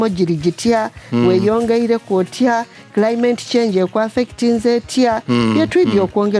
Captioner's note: speaking in Lusoga